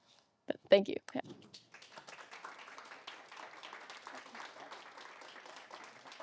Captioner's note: applause